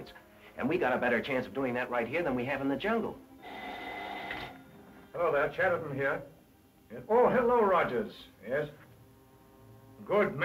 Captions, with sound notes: and we've got a better chance of doing that right here than we have in the jungle. (phone ringing) - Hello there, Chatterton here. Oh, hello, Rogers. Yes, good man.